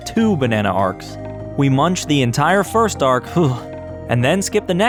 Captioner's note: shudder